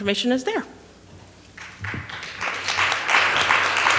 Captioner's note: applause